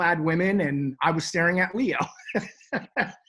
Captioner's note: laughs